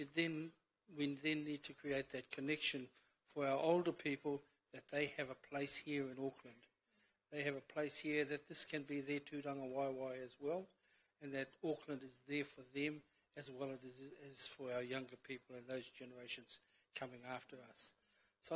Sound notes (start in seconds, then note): 9.4 foreign language